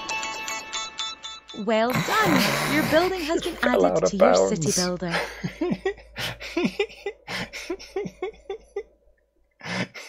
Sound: laughs

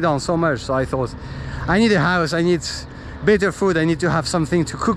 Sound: car

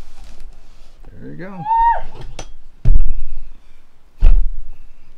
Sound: loud yawning

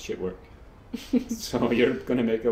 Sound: laughs

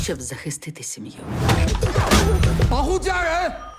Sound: wincing

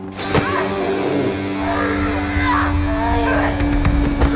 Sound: Shelley screams - Vampire growls

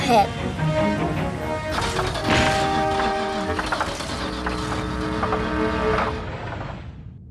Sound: car rumbling

